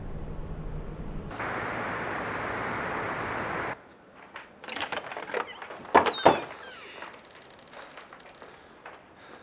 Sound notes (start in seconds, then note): 1.3 static; 3.8 breathing hard